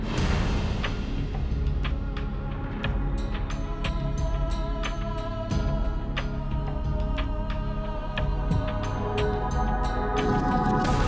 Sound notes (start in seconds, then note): none